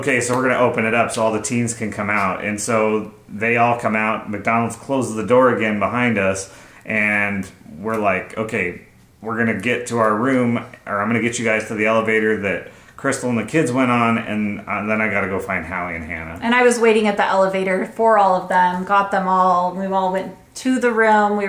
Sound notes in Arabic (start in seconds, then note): none